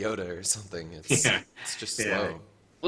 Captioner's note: laughs